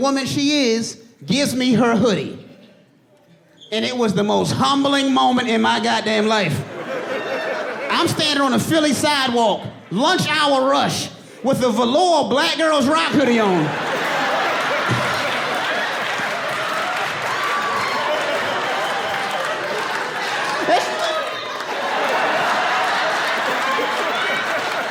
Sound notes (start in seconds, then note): 8.1 audience laughing; 15.1 audience laughs louder; 21.5 chuckles